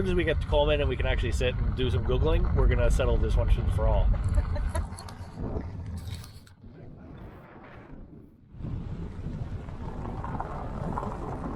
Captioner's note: laughs